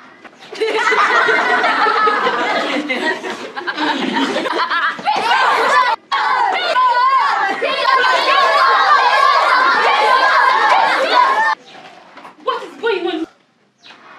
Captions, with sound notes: [Laughter] [Cheering] What is going on?